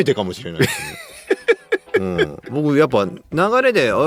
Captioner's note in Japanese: 笑い